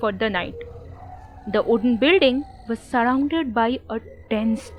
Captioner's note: cricket sound, owl sound, eerie ambience